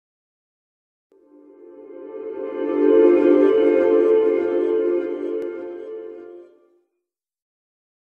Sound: sound of sweep

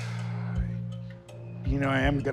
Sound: sighing

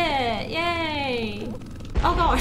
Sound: helicopter revving

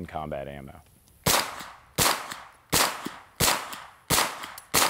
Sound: gun firing repeatedly

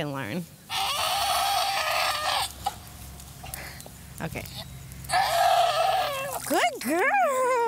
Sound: goat cries out

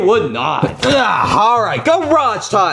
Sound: Mario grunting

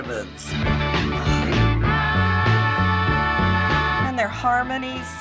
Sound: sighs emotionally

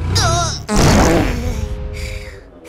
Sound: farts

